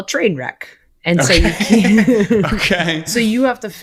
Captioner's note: both laughing